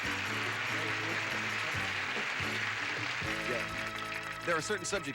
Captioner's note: audience applauding; indistinct chatter